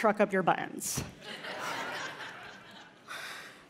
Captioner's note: laughter